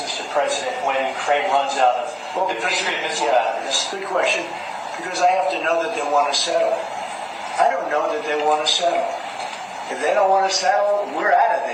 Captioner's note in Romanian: Aplauze